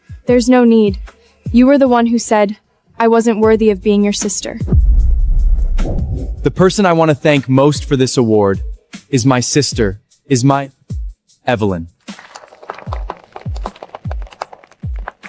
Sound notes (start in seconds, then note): 12.3 audience applauding